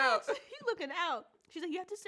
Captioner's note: laughs